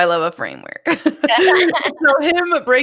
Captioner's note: laughing